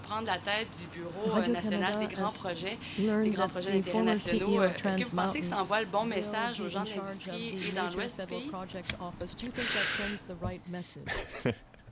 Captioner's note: speaking French